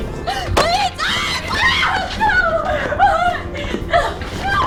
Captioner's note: Sarah screams